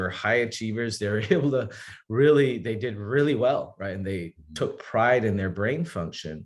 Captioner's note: chuckles